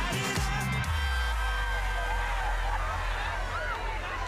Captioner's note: crowd cheering